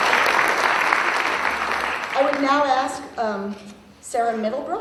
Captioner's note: applause